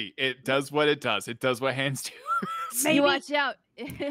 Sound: laughs

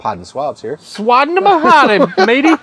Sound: laughs

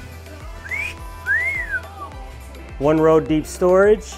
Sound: whistles

